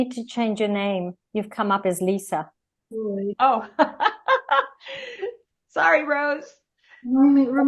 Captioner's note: Rires